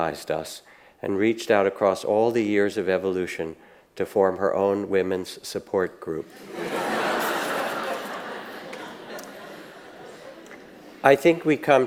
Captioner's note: audience laughs